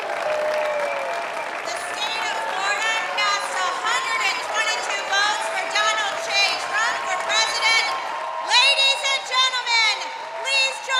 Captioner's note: applause